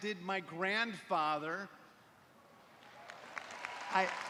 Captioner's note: cheers and applause